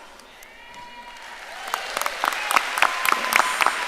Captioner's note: audience cheering and applauding